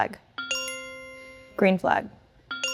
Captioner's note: bell chimes